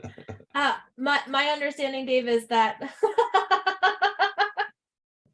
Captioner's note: laughs